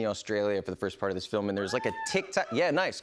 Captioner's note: light cheering